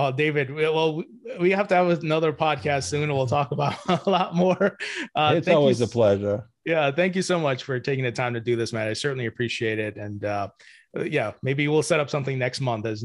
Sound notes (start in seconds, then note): 3.4 laughs